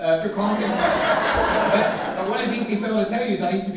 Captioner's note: audience laughing